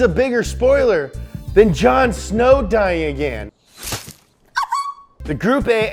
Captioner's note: upset exclamation